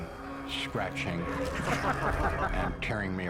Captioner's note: sinister laughter